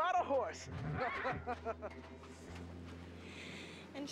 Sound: Murray chuckling

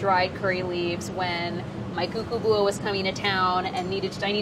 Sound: speaking in foreign language

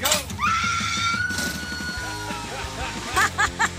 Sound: woman shrieks; woman laughs

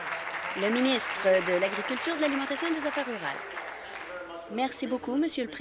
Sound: applause

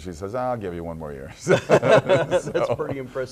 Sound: laughing

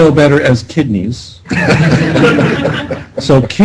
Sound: laughter

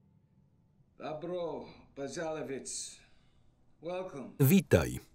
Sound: speaking foreign language

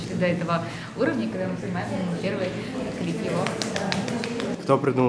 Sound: joyful applause

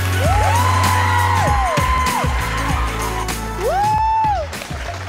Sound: all cheering and clapping

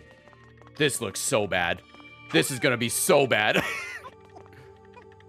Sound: laughs

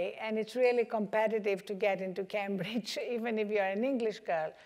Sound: none

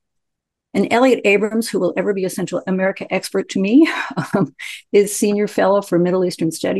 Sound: laughs

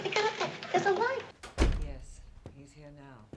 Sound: woman on the phone

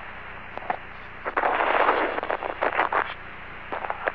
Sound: rockets fire

